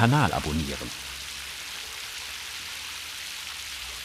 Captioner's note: rippling